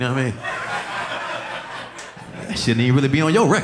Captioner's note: audience laughing